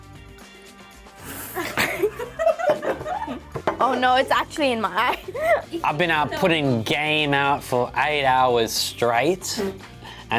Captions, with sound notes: (everyone laughing) - Oh no, it's actually in my eye. (laughs) - I've been out putting game out for eight hours straight,